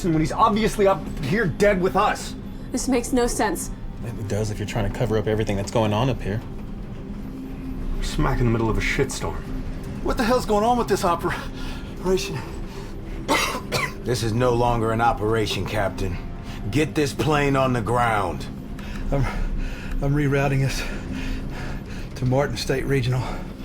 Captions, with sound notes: when he's obviously up here dead with us? - This make no sense. - It does if you're trying to cover up everything that's going on up here. - We're smack in the middle of a shit storm. - What the hell is going on with this opera-operation? (Moss coughs) - This is no longer an operation, Captain. Get this plane on the ground! - I'm, I'm rerouting us to Martin State Regional.